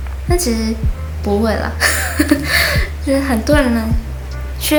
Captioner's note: laughs so what?